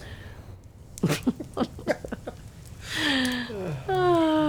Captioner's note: both laughing